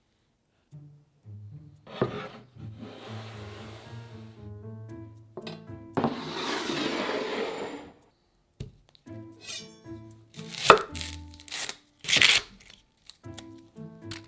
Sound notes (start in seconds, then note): 1.8 board sliding; 10.4 knife chopping; 12.1 onion paper rustling